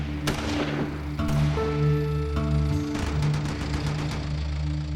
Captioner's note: gunshots firing